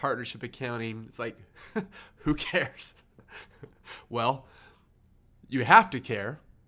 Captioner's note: laughs